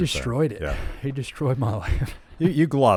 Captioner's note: laughs